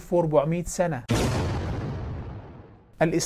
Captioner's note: sound effect